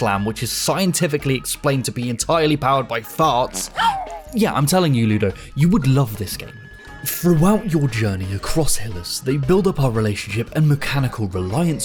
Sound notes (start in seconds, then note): 3.8 gasp